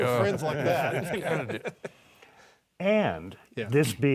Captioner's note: laughing